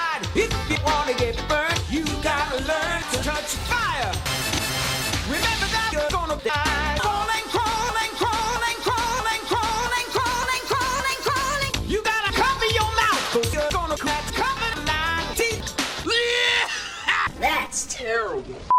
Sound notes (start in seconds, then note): 7.0 pitch increasing; 16.4 Seymour returns to coughing